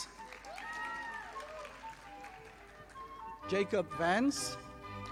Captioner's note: audience applauding